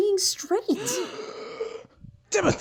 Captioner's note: Mom and Dad gasp